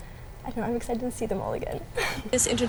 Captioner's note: laughs